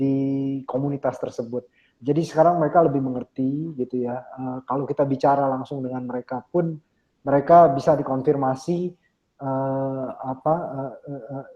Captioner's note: speaking indonesian